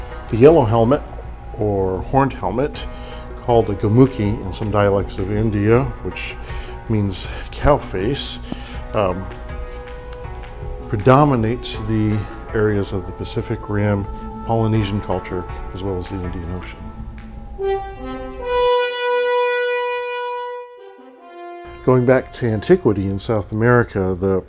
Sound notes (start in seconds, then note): 17.0 horn blowing